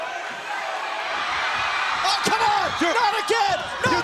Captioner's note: crowd chatter